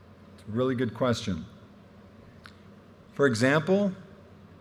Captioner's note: none